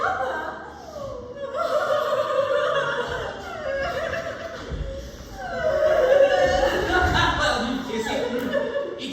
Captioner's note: more sobbing